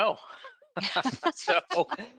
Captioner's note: all laughing